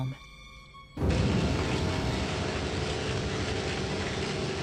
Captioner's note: electricity buzzing, machine roaring